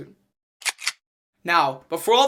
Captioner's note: gun cocking